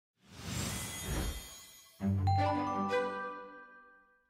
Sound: whooshing; chiming tones

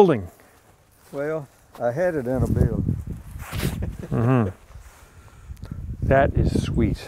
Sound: chuckles

